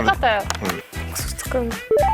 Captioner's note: click